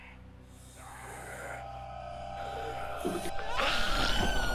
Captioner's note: creatures growling; woman screams